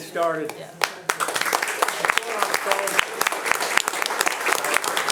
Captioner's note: audience applauding